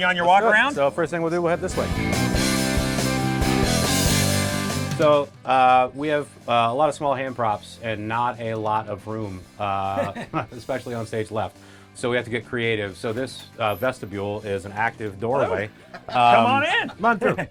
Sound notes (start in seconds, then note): 2.0 rock guitar music; 9.9 chuckles